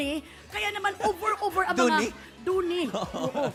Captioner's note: laughs; robi laughs